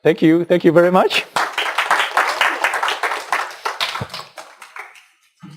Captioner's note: clapping